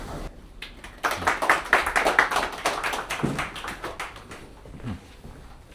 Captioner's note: audience applauding